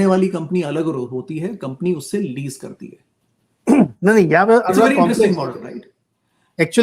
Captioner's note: sound of clearing throat